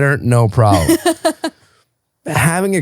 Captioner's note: laughing